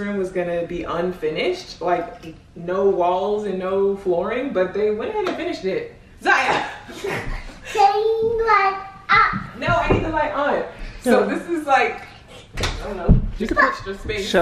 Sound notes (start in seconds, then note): 6.6 laughing